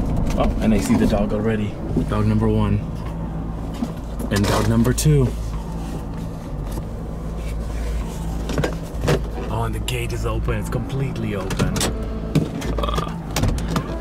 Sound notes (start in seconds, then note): none